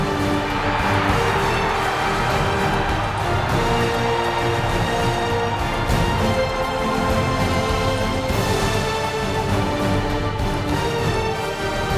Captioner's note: crowd cheers